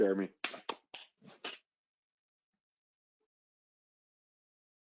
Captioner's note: clapping loudly